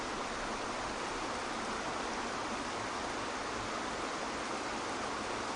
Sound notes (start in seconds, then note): 0.0 waterfall water gushing fades